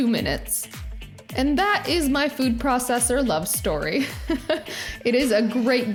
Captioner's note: laughs